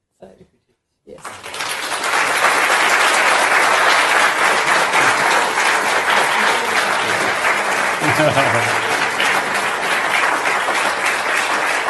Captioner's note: applause